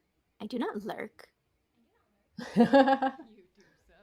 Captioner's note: laughter